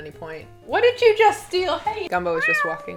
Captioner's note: cat meowing